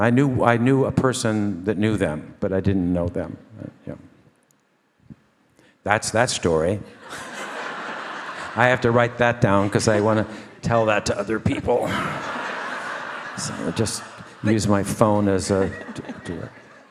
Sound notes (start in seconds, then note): 7.2 all laugh; 12.0 audience laugh